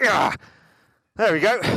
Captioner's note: sighs